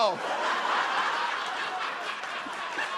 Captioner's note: laughter